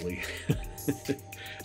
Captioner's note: laughs